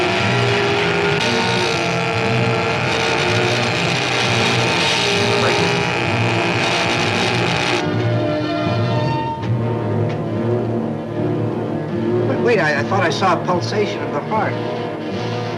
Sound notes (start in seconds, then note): 6.2 electricity buzzes; 6.2 suspenseful music